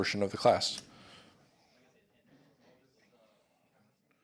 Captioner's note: chatter